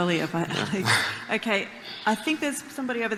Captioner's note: laughs